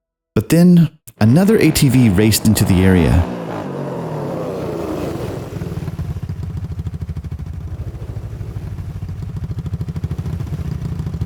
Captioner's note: truck Engine